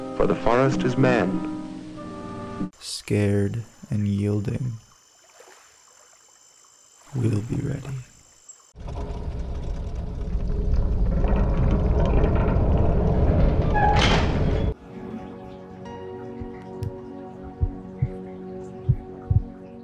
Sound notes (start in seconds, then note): 10.7 clanking; 14.7 light music